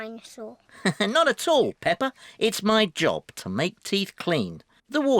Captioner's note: laughs